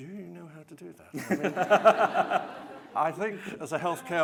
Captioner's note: laughing